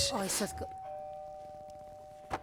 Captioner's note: doorbell